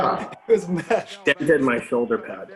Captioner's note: laughs